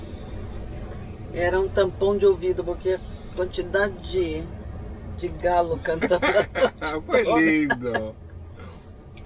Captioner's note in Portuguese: risos